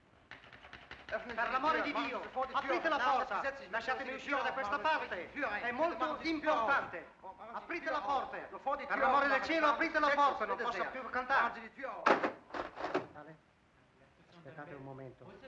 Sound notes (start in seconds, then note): 0.3 door handle rattling; 1.3 men in hallway yelling in foreign language; 12.0 door breaking open; 13.1 voices in adjacent room speaking foreign language